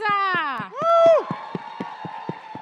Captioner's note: cheering and applause